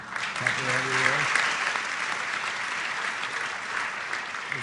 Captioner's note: applause